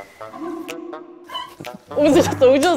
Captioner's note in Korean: 민망함에 터져 나오는 웃음